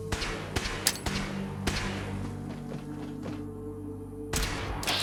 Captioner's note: gunshots firing